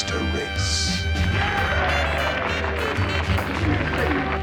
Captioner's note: Nazi Cheering